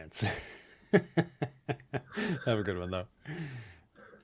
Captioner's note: laughs